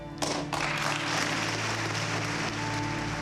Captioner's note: applause